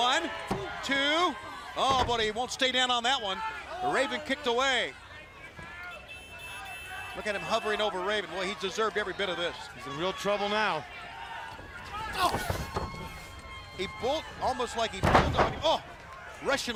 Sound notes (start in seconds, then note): 7.8 crowd chatter